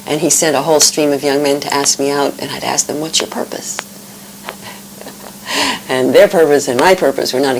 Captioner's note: laughter